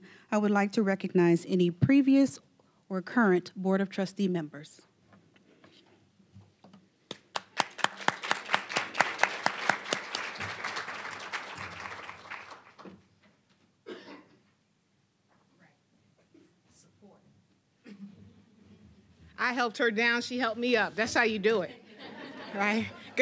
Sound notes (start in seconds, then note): 7.1 applause; 21.6 audience laughing